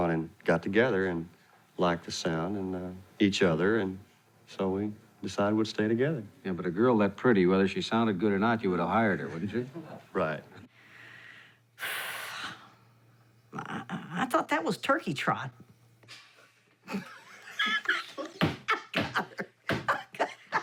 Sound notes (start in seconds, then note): 11.7 sighing; 16.8 laughing